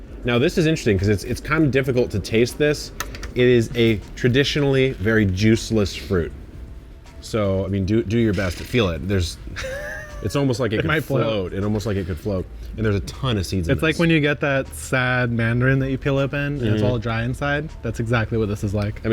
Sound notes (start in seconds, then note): 9.5 chuckles